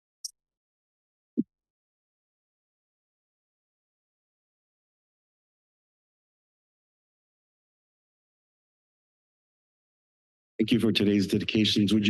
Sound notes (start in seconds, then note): 2.1 silence